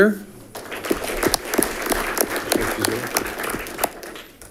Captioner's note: audience clapping